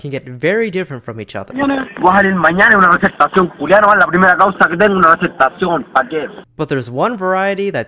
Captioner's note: chilean spanish